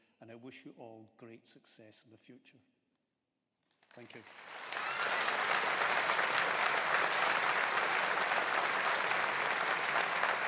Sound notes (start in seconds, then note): 3.9 audience applauding